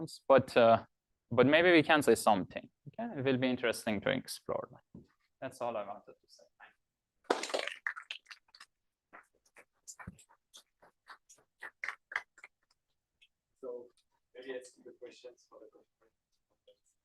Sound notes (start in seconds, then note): 7.3 applause